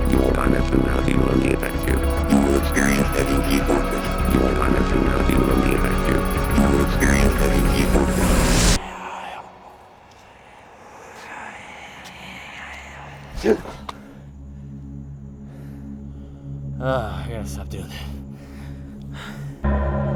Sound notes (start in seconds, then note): 13.2 gasping; 13.2 panting; 18.0 gasping breath